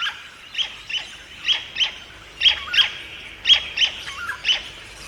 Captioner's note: bird sounds